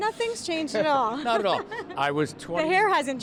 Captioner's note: chuckles